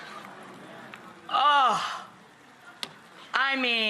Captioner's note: moans